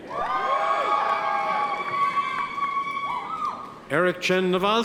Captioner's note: audience members cheer